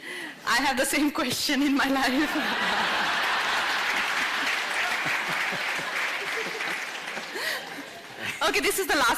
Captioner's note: laughter/Applause